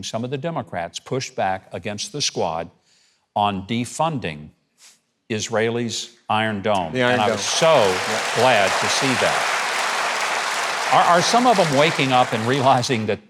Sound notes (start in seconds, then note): 9.5 audience applauding